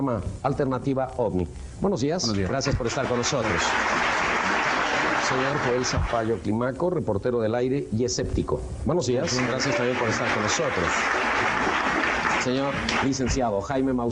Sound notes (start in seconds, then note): 2.4 publiek klappen; 6.2 in vreemde taal